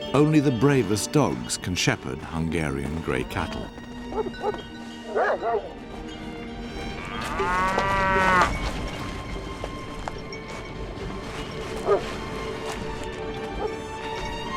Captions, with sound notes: Only the bravest dogs can shepherd Hungarian gray cattle. [dogs barking] [cattle mooing] [dog barking]